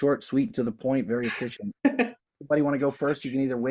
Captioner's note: laughs